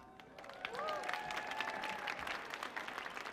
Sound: audience cheers

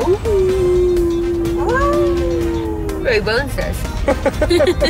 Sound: howling

